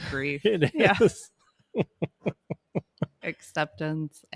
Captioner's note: laughing